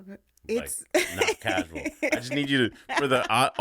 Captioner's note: laughing